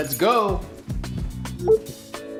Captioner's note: HomePod mini chimes